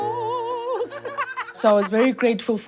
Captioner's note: singing opera; laughter